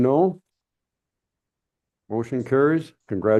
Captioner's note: silence